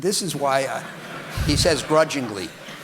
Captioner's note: audience laughing